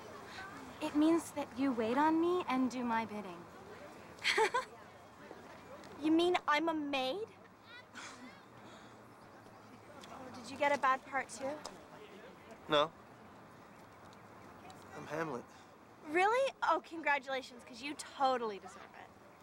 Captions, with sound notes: IT MEANS THAT YOU WAIT ON AND DO MY BIINDDG. ( la ughing ) YOU ANME I'M A MD?AI DID YOU GET A BAD PART TOO? NO. I'M HAETML. REALLY?! OH, CONGRATULATIONS, 'CAUSE YOU TOTALLY DESERVE IT.